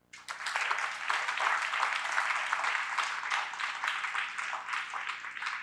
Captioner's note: applause